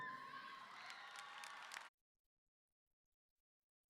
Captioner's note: audience cheering